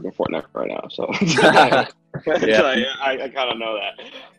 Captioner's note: laughter